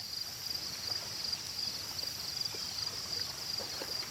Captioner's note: crickets chirping